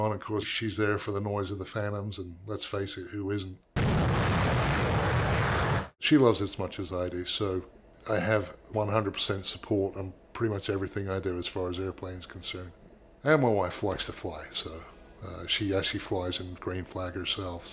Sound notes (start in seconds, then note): 3.8 thundering jet engine